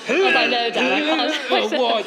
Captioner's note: imitates retching; laughs; retching continues